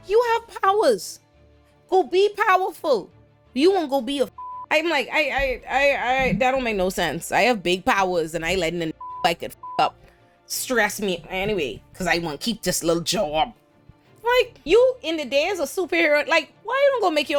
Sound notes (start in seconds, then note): 4.3 beep; 9.0 beep